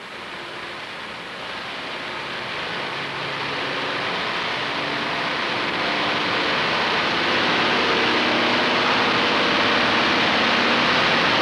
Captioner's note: engine noises